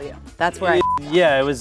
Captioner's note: beep